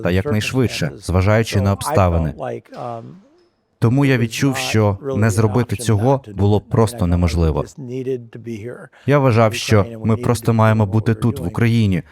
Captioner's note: sighs